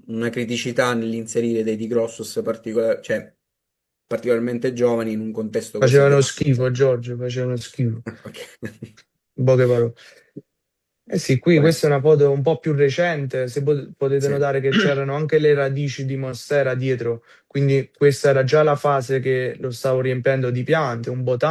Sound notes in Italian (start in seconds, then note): 8.1 risate; 14.6 schiarire la voce